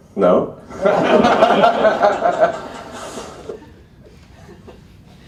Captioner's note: laughter